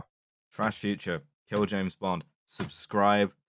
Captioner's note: thumps rhythmically on desk